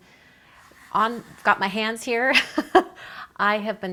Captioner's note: laughs